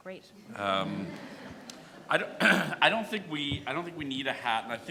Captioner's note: audience laughs